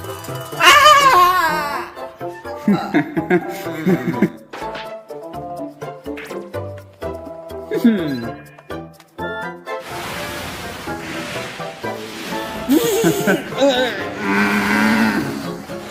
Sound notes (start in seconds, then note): 0.5 Fuu2 screams; 2.6 Luke laughs; 7.7 Fuu2 chuckles; 12.6 Fuu2 yells, Luke laughs; 15.7 both yell